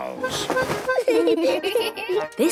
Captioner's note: giggling